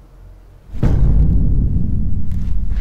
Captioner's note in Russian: Шуршание за спиной